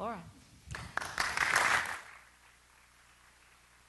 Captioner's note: applause